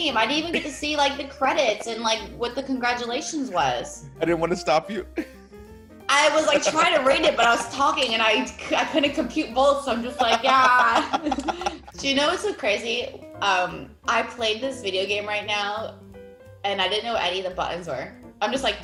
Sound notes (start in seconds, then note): 6.2 laugh